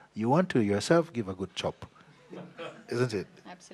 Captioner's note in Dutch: zacht gelach